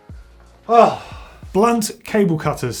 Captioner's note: sighs